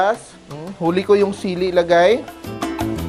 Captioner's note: sizzle